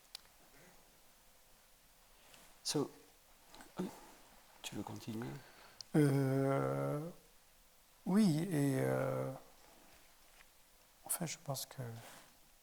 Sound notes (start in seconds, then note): 2.8 speaking in French to Abderrahmane; 8.3 speaking in French